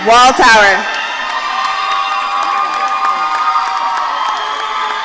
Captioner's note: audience cheering